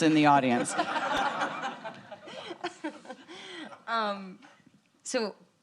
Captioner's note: audience laughing